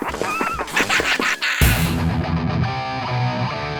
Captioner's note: laughing